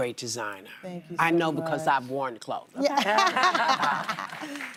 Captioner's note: applause